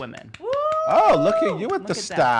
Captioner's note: clapping and cheering